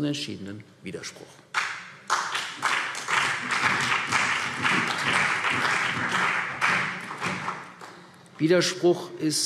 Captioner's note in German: Beifall CDU und Freie Demokraten